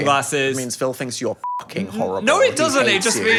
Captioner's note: beep